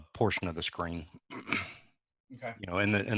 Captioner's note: clears throat